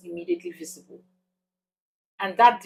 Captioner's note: paause